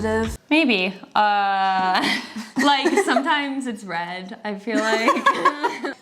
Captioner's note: laughs; both laughing